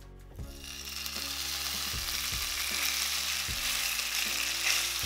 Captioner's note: meat sizzling